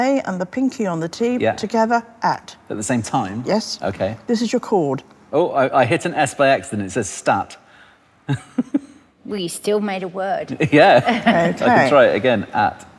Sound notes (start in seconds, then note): 8.3 giggles softly